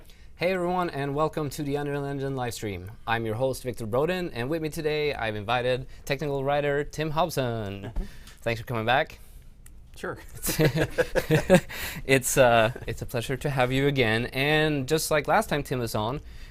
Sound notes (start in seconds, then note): 10.2 laughter